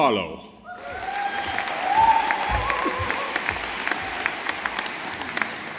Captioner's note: audience applauding